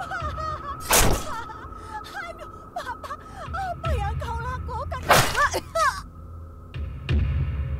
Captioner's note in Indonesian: suaranya tercekat dan terdengar tebasan parang